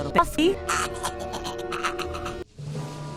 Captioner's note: Robonino cackling